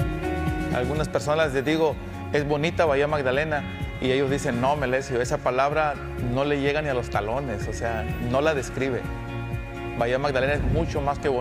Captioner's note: speaking spanish